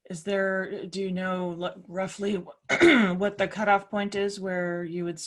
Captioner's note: cough